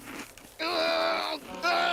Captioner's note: groaning